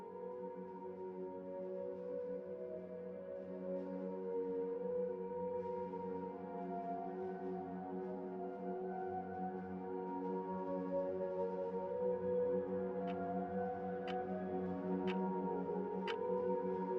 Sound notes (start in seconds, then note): 13.3 clock ticking